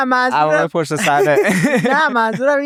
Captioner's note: laughs